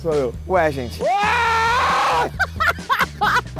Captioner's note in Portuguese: gritando